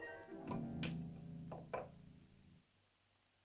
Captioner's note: dish clatters